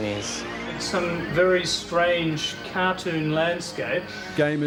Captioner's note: said whilst using headset